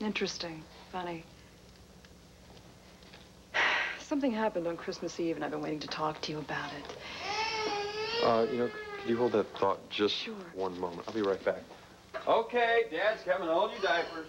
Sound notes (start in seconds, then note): 8.7 baby cries